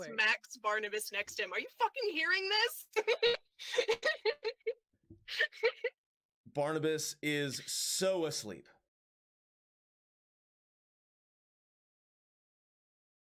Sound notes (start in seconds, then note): 2.8 laughter